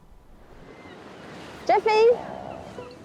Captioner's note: waves lapping; gulls squawking